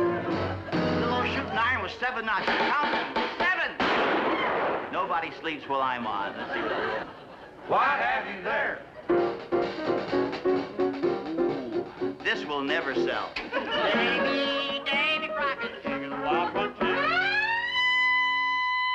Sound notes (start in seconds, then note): 9.0 jazz; 16.6 high-pitched horn sound